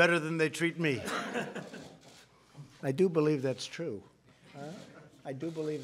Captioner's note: laughter